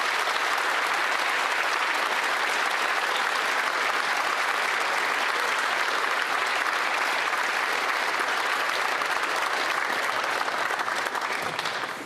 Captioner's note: applause